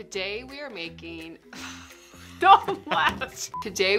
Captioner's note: laughs